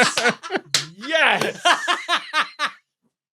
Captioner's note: group laughing; laughs uproariously